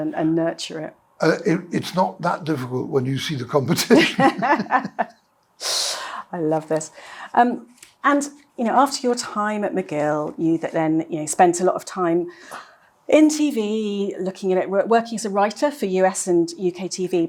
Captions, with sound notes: -and nurture it. -It's not that difficult when you see the competition. [laughter] I love this. After your time at McGill, you then spent a lot of time in TV working as a writer for US and UK TV,